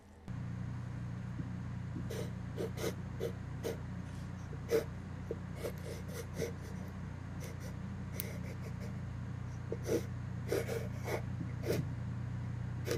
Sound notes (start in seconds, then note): 2.5 pencil scritching